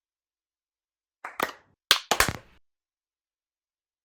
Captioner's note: clapping